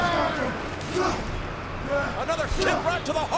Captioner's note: Rikishi groans; foot thuds